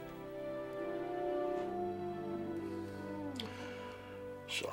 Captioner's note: wolf howling